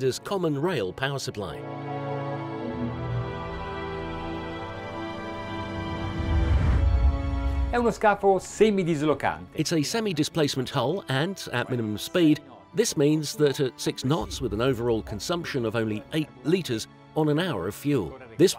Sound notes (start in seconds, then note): 1.7 cinematic violin music; 7.8 speaking in Italian